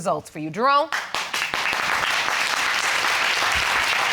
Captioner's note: audience applauding